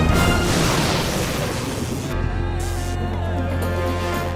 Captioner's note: thunderclap, electrical buzzing